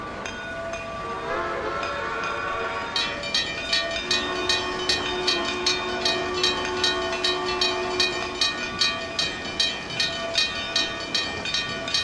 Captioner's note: NH I-5 Whistle, railroad crossing ringing